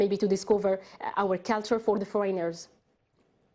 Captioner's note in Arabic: تتحدث الإنجليزية